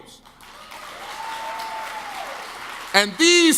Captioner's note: audience claps and cheers